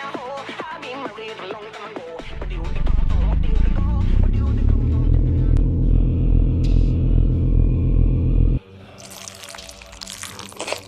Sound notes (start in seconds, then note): 2.2 low demonic rumbling; 9.0 squishy dribbling